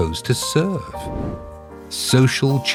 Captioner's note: air whooshing